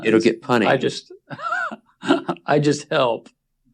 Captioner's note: laughs